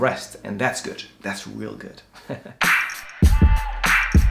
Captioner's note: laughs